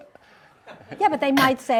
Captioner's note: audience chuckles